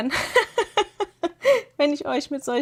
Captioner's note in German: gelächter